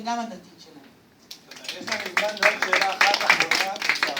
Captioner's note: applause